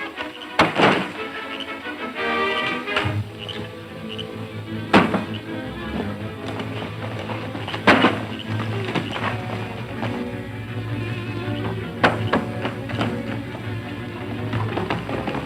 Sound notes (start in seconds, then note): 0.3 thumps; 4.6 thumps; 9.1 galloping hooves